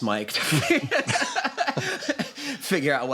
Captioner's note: laughter